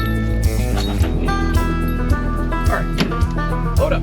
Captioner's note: dog sniffing